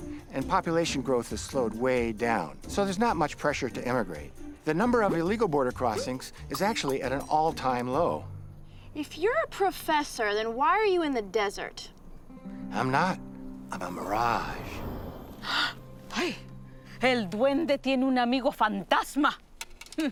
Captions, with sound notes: and population growth has slowed way down. So, there's not much pressure to emigrate. The number of illegal border crossings is actually at an all-time low. If you're a professor, then why are you in the desert? I'm not, I'm a mirage. (gasping) Hey!